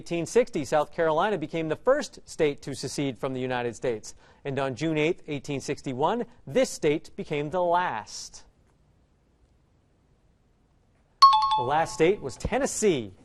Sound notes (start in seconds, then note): 11.2 out of time alarm